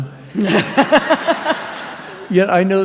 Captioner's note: laughter